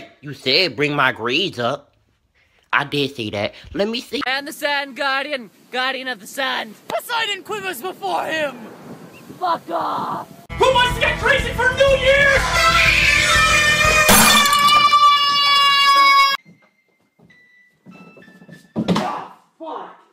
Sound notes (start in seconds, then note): 11.7 excited screaming; 14.0 smashing of glass on floor; 14.5 singular person battle cry